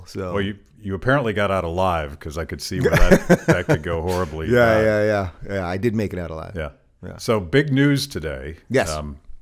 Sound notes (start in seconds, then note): 2.8 Dave laughs